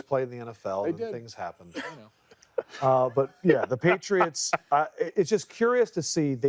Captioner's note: laughter